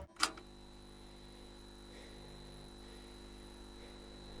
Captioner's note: screen humming; button clicks